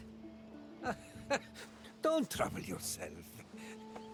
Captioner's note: laugh